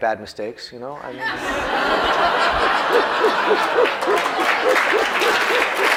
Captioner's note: laughter